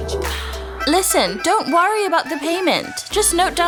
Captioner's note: Seerat to Over Phone